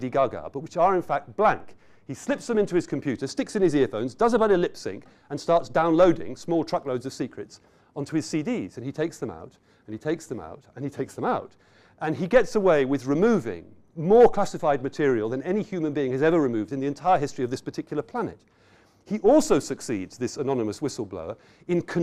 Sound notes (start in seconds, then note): none